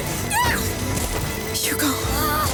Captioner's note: amicia screams